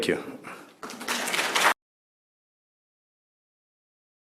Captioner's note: applause